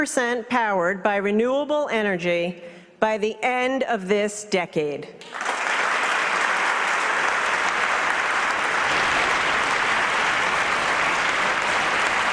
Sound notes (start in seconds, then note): 11.2 applause